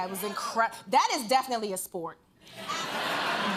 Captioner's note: laughter